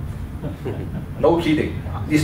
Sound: laughter

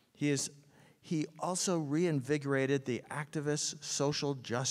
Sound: none

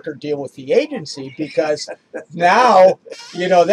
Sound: laughs

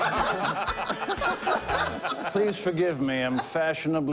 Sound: laughter; affected accent

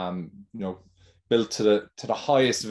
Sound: none

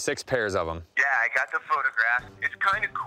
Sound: on phone

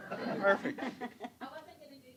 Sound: laughter

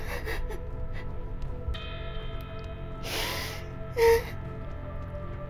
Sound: crying

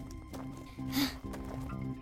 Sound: Sema exhales loudly

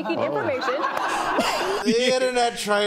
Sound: laughter

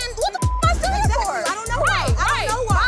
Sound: beep

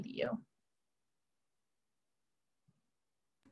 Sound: silence

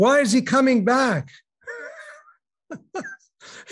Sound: laughing

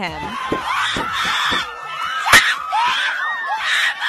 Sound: screaming fans

